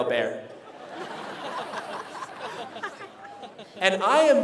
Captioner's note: laughter